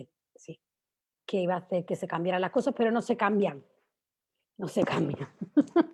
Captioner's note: frustrated laugh